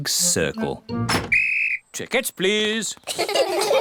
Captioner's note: blows whistle; all laugh